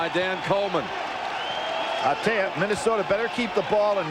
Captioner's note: whistle